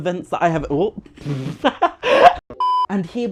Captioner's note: laughs